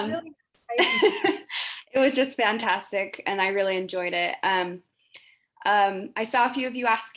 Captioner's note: laughs